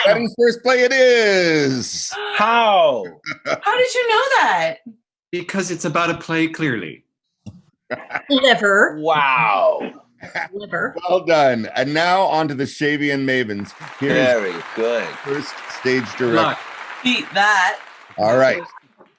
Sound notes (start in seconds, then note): 3.0 laughs